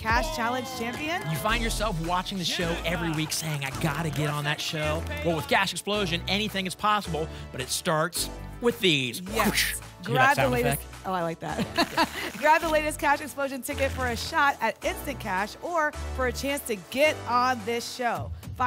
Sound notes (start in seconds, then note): 11.7 tickets shuffling